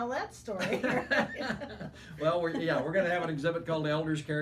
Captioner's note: laughing